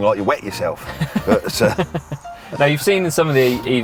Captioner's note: laughing